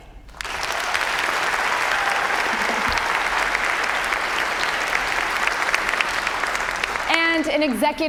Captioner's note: applause